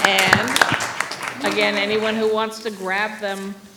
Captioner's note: applause